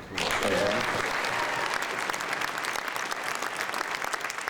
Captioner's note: cheering and applause